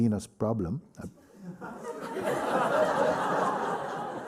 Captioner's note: laughter